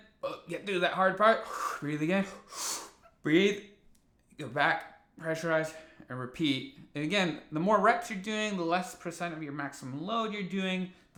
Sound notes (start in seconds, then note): 1.4 exhales; 1.4 inhales